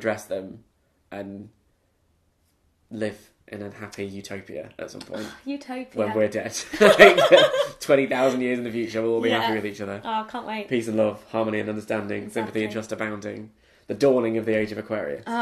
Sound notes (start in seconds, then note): 6.6 both laugh